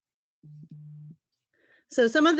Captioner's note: soft beaming